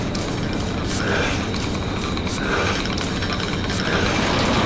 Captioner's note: sonic chittering